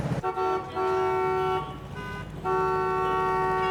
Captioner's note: horns honking